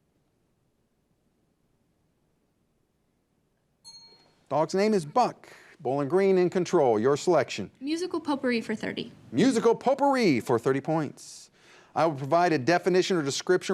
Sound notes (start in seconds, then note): 3.8 bell dings